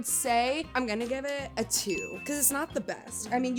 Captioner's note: bell ringing